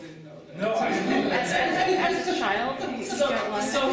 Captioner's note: laughter, chatter